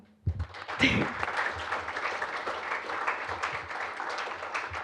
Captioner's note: applause